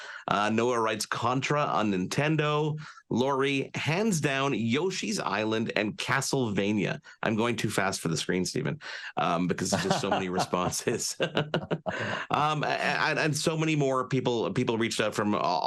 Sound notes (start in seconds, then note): 9.2 laughs